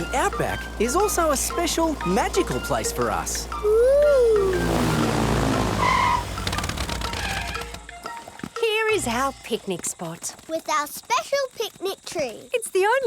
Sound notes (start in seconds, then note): 6.1 tires screeching